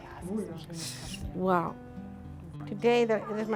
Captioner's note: speaks in foreign language